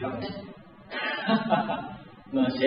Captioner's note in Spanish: Risas